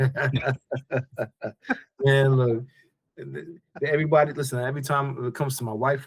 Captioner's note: both Laughing